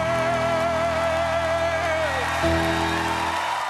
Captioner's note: cheering